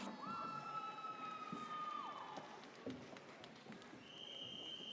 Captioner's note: audience cheers